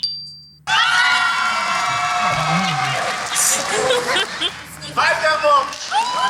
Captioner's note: cheering